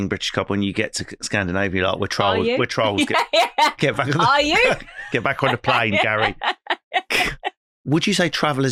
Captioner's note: laughing